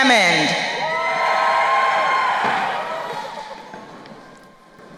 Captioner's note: crowd cheering